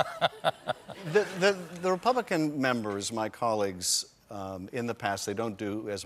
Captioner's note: laughter